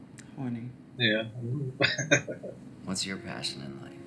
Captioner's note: chuckling